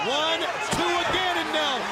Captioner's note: crowd chatter